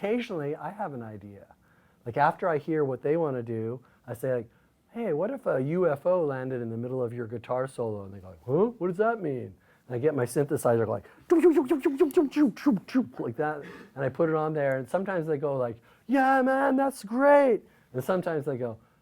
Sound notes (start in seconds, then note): 11.2 UFO noises